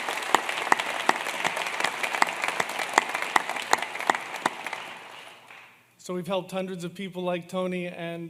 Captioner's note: applause